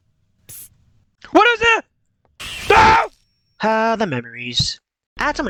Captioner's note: screech Psst